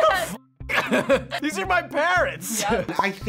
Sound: laughs

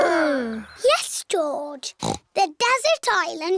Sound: snorts

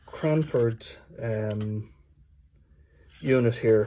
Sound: silence

